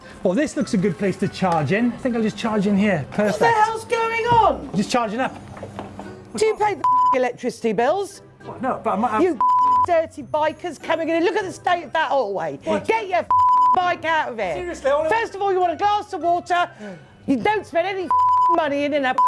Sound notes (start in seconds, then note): 9.4 beep; 13.3 beep; 18.1 beep